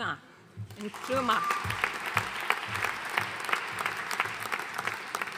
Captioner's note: audience applauding